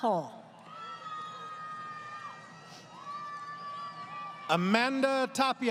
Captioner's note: crowd Cheering